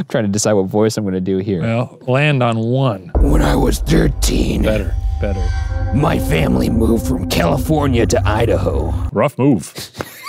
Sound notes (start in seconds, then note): 3.3 raspy